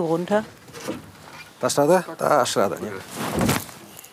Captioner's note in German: Sie sprechen polnisch